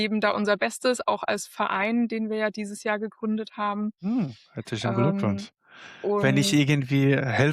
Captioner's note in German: räuspern